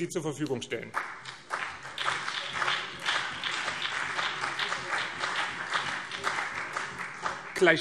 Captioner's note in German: Beifall BÜNDNIS 90/DIE GRÜNEN